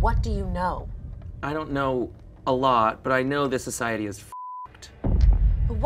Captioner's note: beep